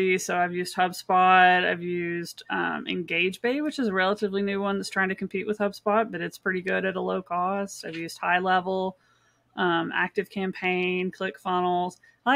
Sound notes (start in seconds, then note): none